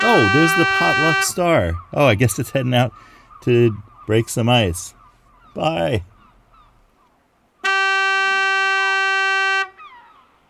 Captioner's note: Potluck Star horn sounds